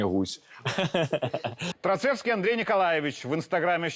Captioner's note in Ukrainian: сміх